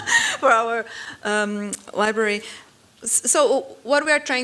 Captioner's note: laughing